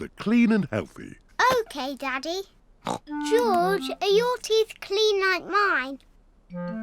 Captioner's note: snorts